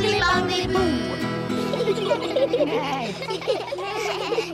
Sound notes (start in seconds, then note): 1.1 all giggle